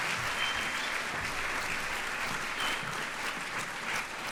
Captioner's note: audience applauds